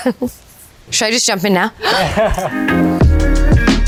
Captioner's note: inhales; cameraman laughs; upbeat R&B music